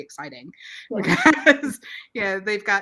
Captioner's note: laughs